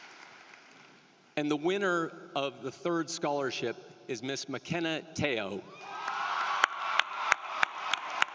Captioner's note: cheering and applause